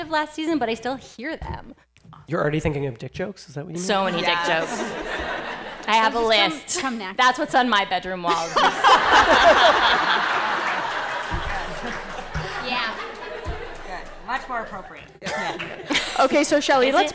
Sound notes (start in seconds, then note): 8.2 laughter